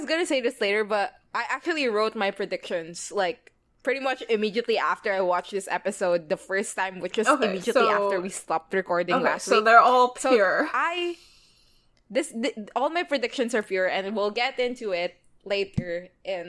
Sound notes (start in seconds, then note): none